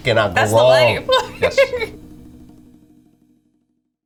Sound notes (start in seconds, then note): 2.9 laughing